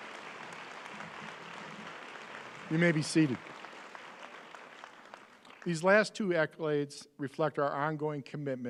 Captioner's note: applause